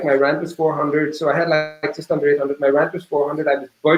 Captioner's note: digital interference drowning out speaker